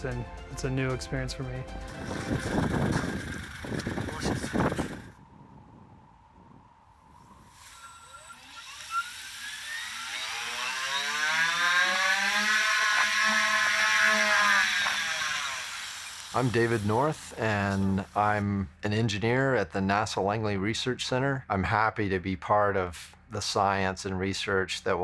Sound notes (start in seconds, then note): 7.5 engine whirring